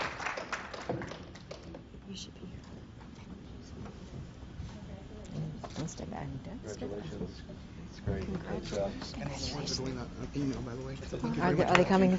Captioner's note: applause